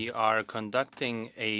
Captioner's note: speaking French